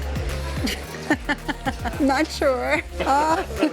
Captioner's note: laughing